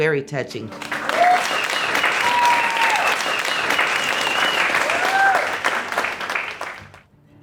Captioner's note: cheers & applause